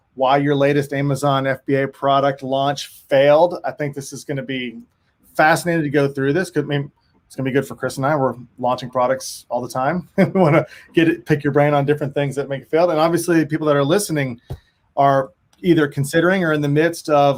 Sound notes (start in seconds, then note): 10.1 chuckles